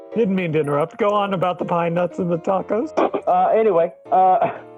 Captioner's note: laughs